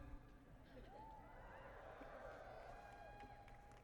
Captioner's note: cheering